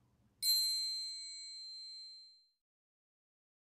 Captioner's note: bell dings